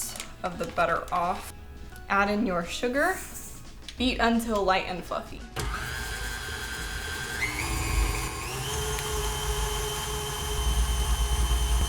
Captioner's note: mixer sounds